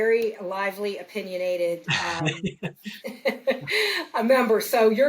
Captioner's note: laughs